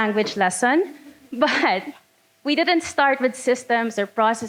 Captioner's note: laughing